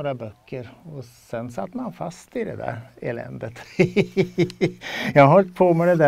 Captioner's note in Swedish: skrattar